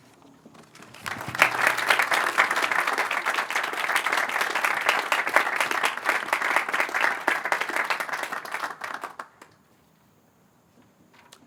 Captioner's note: applause